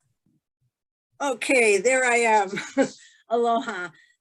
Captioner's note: laughing